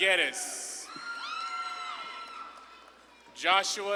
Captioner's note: audience claps and cheers